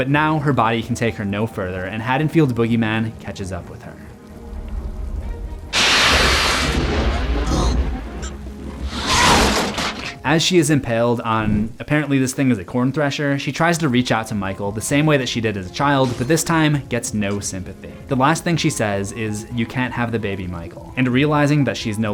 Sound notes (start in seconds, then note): 8.5 choking sounds